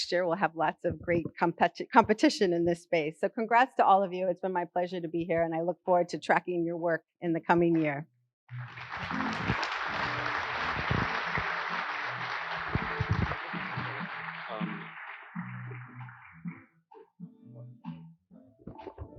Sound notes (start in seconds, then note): 13.9 applause